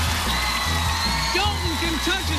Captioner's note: cheers and applause